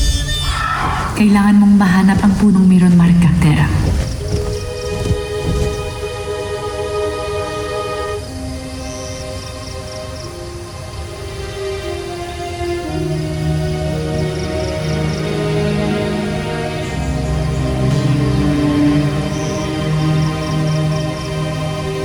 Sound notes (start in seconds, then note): 0.0 piercing squawk; 4.4 birds & crickets chirping; 4.4 mystical music playing